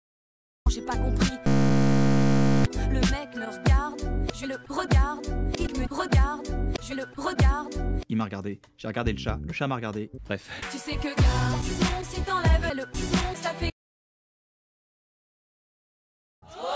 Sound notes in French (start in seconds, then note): 1.4 bzzzzz